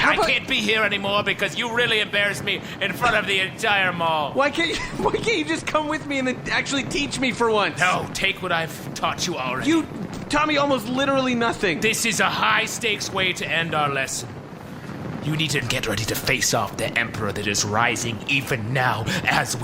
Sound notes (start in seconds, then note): 4.6 laughing in bewilderment